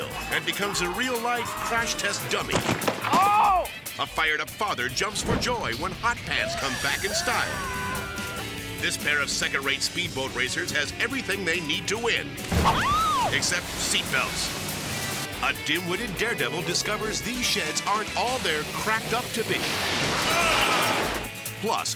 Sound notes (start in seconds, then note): 2.6 person thuds; 12.3 boat thuds; 12.7 person shrieks; 14.6 water splashing; 19.6 shed smashing; 20.0 biker grunts